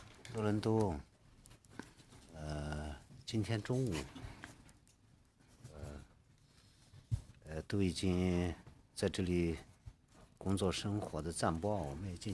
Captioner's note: speaking Alternate Language